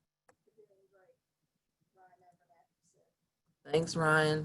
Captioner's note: speaking faintly